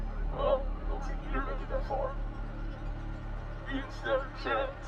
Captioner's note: digital Male Voice